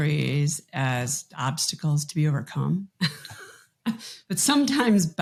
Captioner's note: chuckles